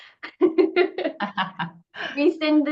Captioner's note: laughing